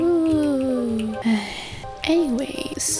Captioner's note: sigh